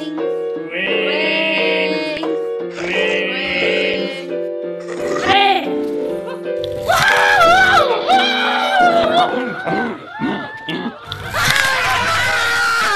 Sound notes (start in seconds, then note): 4.8 zombie snarls; 6.8 shrieks; 11.3 screams